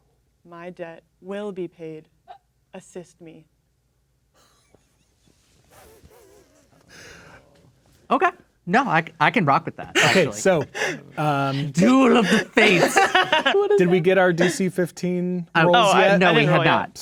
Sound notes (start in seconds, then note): 4.4 players chuckling quietly; 9.9 laughing